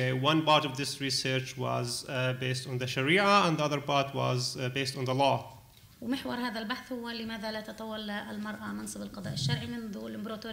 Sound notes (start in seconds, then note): 6.0 speaking arabic